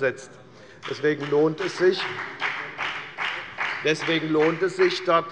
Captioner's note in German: Beifall bei der FDP